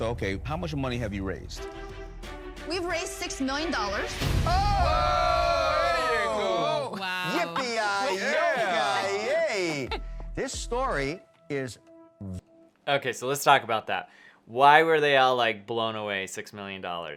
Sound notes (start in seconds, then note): 4.4 Sharks cheering; 9.7 laughing